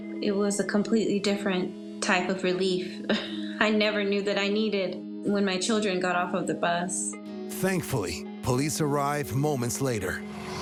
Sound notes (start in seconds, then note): 3.1 chuckles